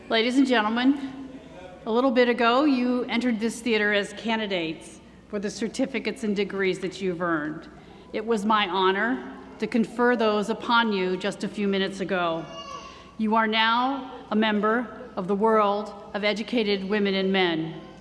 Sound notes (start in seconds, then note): none